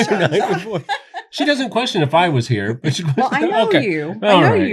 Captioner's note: laughter